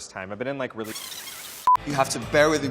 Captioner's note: beeps